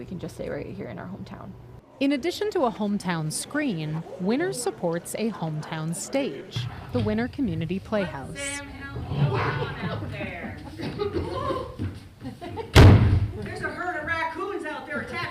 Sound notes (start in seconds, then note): 9.3 group chattering